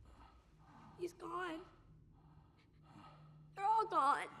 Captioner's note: tearfully